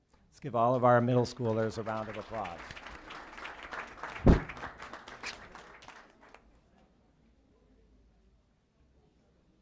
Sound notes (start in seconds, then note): 1.2 applause